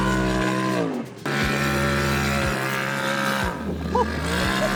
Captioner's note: engine revving